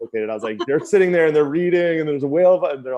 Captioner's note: laughs